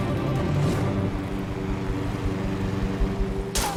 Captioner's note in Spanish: Ruido del aerobote; Disparos